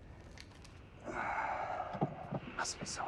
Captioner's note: Sinclair sighs